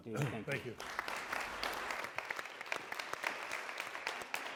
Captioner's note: applause